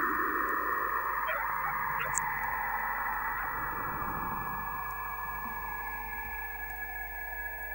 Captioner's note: electronic glitch sound